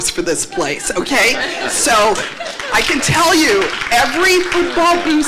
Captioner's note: applause